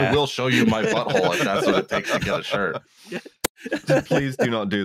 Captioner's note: laughter